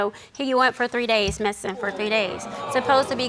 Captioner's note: audience gasping